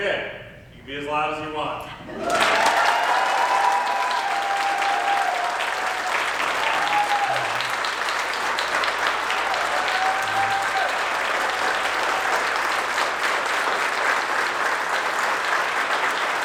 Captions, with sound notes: Okay, you can be as loud as you want. (audience cheers) (audience applauds)